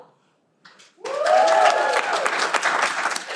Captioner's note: cheering